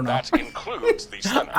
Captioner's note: laughing